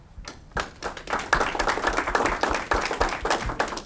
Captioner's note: audience clapping